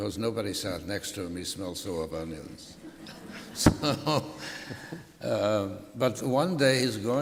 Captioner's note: laughter